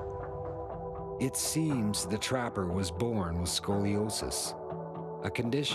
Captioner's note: voiceover